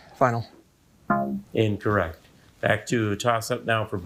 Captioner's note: buzzer beeping